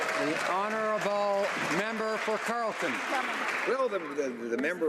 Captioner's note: some Applause